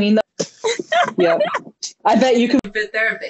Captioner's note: laughing